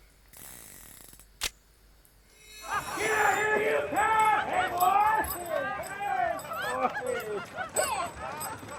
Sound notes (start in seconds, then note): 0.7 gun barrel clicking; 2.6 gang laughing